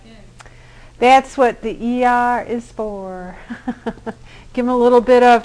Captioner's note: laughter